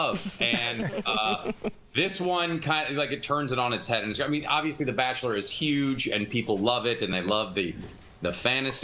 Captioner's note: laughter